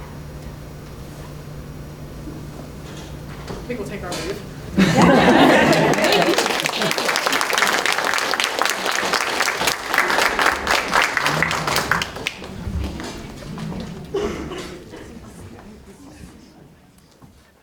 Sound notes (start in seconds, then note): 7.9 audience Applause